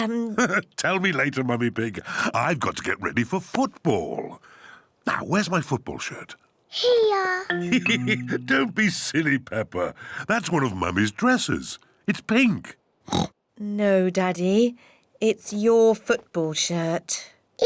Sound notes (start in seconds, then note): 0.4 laughs; 7.6 laughs; 13.1 oinks